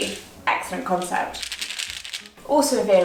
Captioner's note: capsules shaking